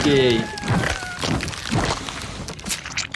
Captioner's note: blood sloshes; bones crackle; blood sloshes